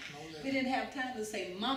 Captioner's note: laughs